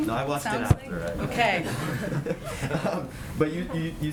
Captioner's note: laughter